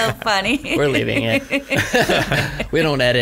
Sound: laughs

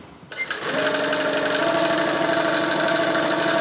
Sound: rattling, whirring

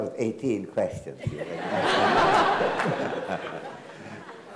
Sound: everyone laughs

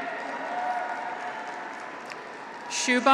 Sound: audience applauds; graduates cheer

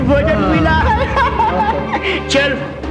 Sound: laughs

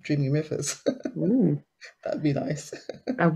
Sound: laughs

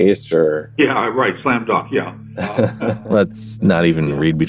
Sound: laughs

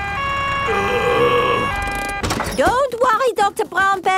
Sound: siren wailing; groaning

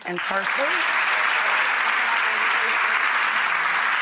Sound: applauding

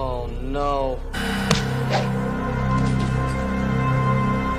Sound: druid slap sounds

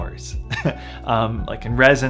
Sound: laughs

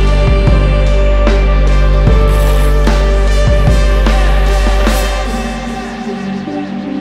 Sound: vocalizing harmony; gears spinning

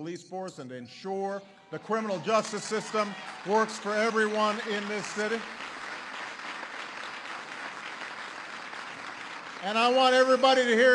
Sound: applause

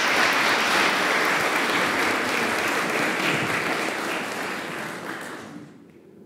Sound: applause

